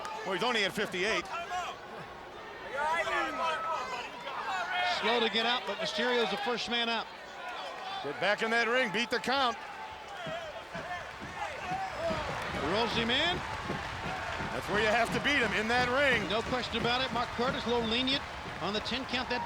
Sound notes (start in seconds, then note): 2.5 onlookers yelling; 10.5 crowd chattering